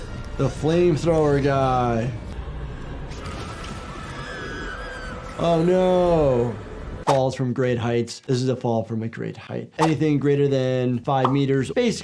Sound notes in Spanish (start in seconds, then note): 3.4 las mujeres gritan